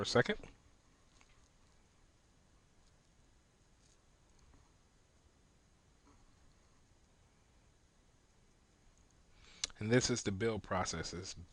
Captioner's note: silence